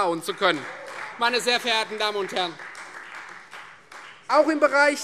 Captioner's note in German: Beifall Freie Demokraten